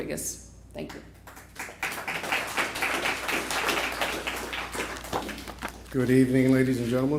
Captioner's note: applause